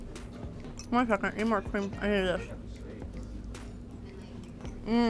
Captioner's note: mumbling through food